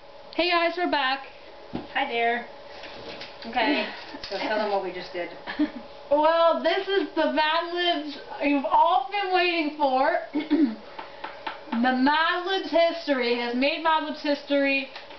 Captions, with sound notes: Hey guys we're back! Hi there Okay, so tell them what we just did well this is the mad libs you've all been waiting for (clears throat) the mad libs history. Has made mad libs history